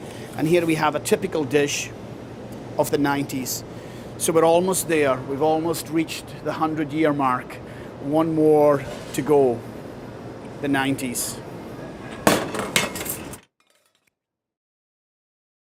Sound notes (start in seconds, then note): 12.0 dishes clamoring